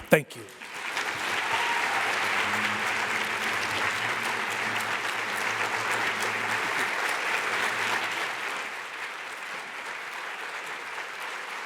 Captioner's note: applause